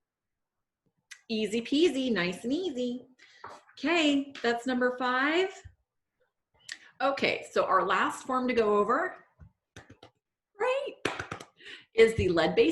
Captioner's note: clapping